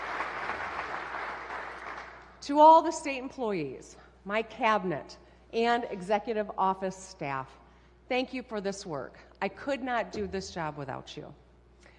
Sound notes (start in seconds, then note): 0.0 applause